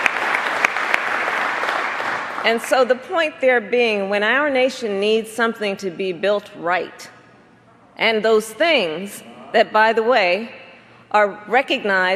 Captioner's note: applause